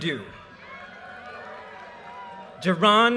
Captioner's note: audience cheers and applause